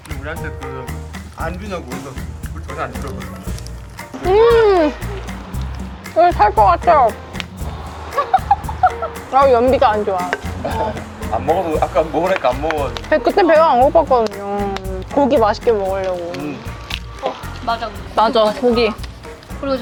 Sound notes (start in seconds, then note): 8.2 laughter